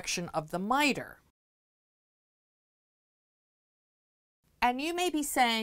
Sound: no Sound Present

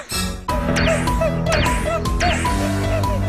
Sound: laughs so hard

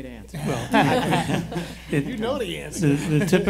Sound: laughing

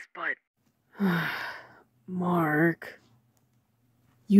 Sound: sigh

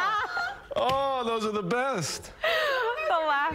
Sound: laughter

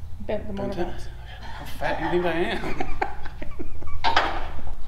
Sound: laughing

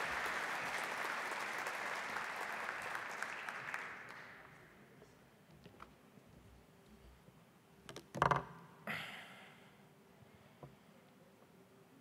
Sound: applause

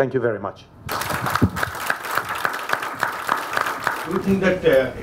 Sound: applause

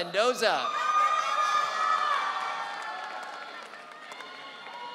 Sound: audience cheering

